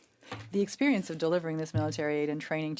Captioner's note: speaking French